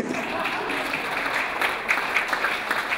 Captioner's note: clapping